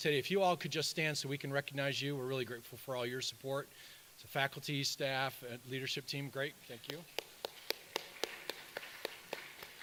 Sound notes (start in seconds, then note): 7.1 claps